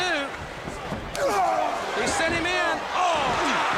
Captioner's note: crowd chatter